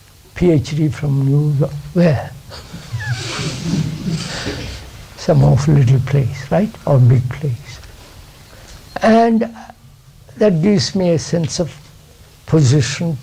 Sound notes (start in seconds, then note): 2.4 laughs